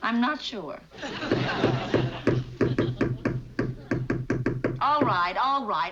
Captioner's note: hammering